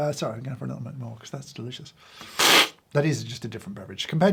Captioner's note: slurps